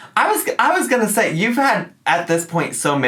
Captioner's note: none